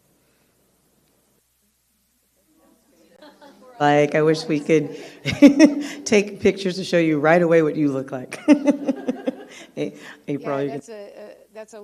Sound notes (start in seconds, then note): 8.3 laughs